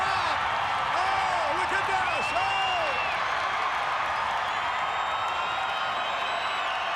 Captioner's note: crowd cheering continues